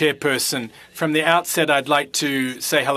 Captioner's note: speaking FRENCH